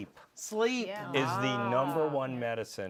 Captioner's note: surprised murmurs